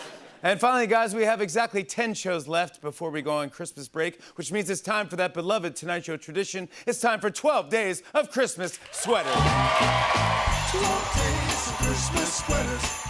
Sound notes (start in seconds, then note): 8.8 cheers and applause